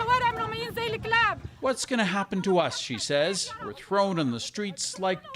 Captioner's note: speaking alternate language